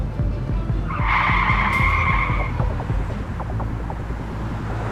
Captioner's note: tires screeching